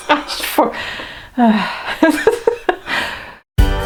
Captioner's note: laughs